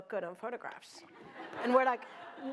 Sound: laughter

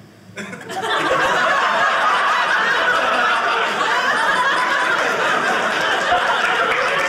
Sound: audience laughing; audience applauding

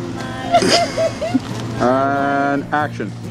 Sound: laughing

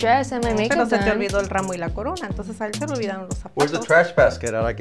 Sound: speaking Spanish

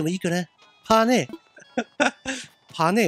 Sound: giggle

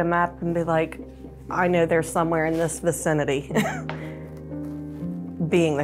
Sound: laughs

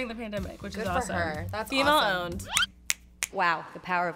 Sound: fingers snapping

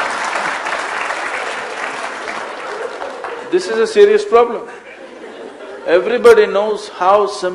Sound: laughter/Applause; laughter

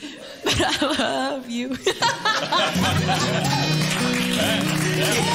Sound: stifled laughter; laughter, applause

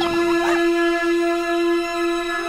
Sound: dog barks; child giggles

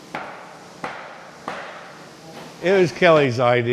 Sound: hammer pounding

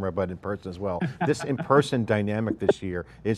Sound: laughs

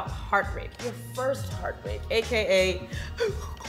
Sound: sobbing

